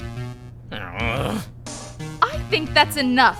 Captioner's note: groan